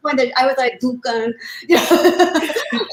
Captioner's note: spanish inflection